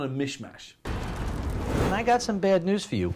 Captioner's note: building crashing